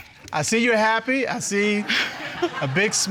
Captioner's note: audience laughing; chuckles